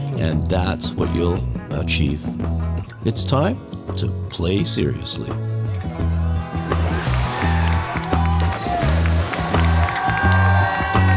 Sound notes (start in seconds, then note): 5.6 cheerful music continues; 6.3 students cheering